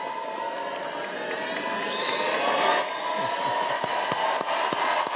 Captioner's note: audience cheering